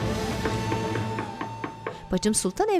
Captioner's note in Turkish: Kapı vurma sesi